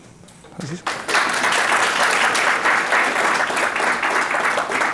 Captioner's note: audience applauds